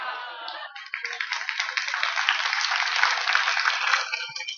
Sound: applause

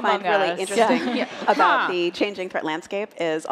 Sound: laughter

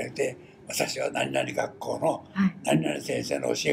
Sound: foreign language

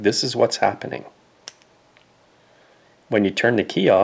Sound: click

